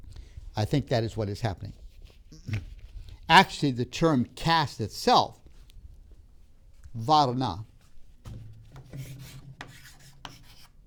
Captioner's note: chalk sounds